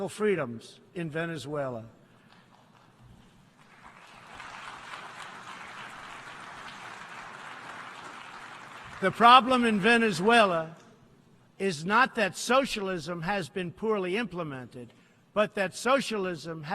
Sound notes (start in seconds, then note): 5.1 applause